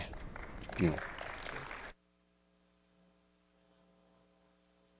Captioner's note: attendees applauding